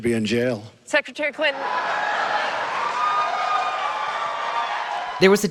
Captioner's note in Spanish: audiencia celebrando